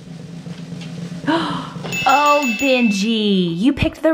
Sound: bell dings

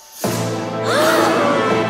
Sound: gasps

